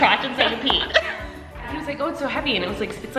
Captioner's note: both laughing